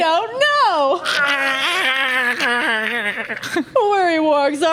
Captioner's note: pained gurgling intensifies